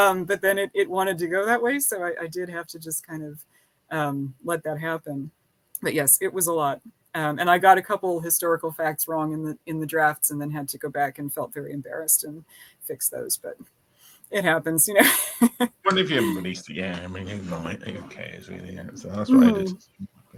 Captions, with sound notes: but then it wanted to go that way. So I did have to just kind of let that happen. But yes, it was a lot. And I got a couple historical facts wrong in the drafts and then had to go back and felt very embarrassed and fix those, but it happens. (laughing) I wonder if you have a release to game. I mean, I think it's okay, is it? So that's what I did.